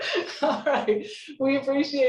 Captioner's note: laughing